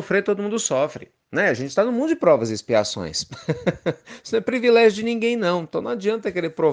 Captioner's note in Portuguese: Risos